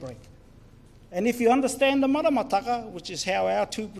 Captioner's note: foreign Language